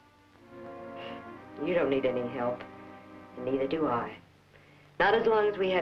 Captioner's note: scoffs